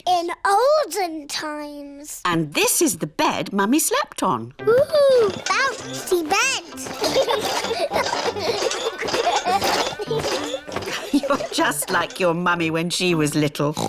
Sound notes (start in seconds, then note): 4.9 children laugh